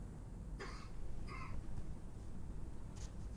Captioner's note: coughing